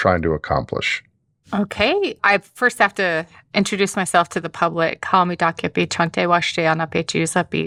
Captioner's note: speaking Lakota